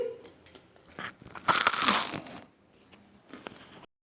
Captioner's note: eating sound